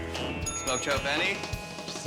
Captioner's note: energetic rock and roll music; bell dinging